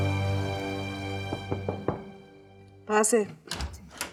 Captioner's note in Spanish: toques en la puerta